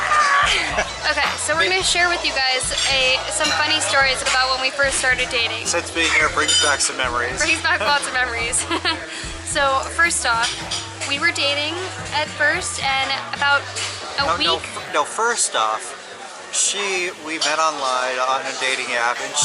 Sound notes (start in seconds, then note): 9.8 laughs